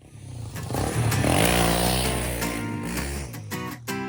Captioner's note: engine revs